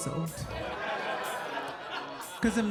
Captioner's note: audience laughing